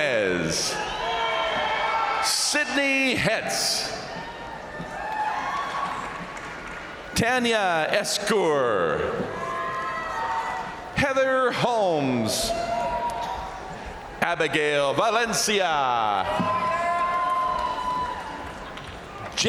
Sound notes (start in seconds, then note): 0.0 crowd cheering; 0.2 crowd applauding; 3.7 crowd cheering; 4.3 crowd applauding; 8.7 crowd cheering; 16.0 crowd cheering; 16.0 crowd applauding